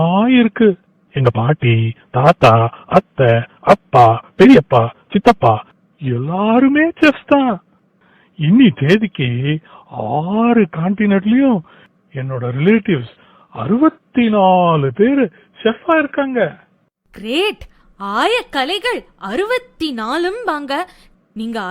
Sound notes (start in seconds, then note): none